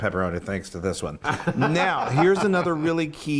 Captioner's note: laugh